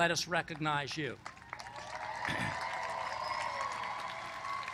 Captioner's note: applause